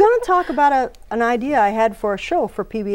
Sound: laughing

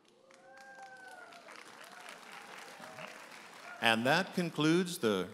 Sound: audience applauding and cheering

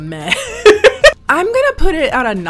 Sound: laughs

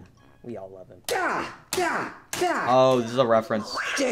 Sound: hitting and grunting

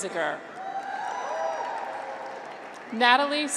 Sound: graduates cheer

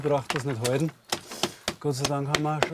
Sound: hammering

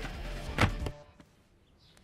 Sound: shelf closes

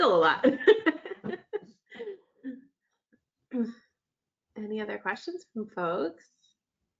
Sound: laughs

